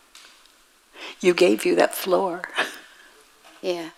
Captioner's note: woman in blue laughs